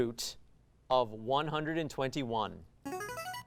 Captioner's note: ring-in sound